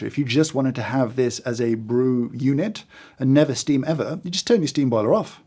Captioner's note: none